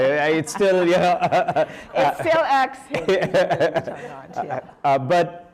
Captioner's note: laughter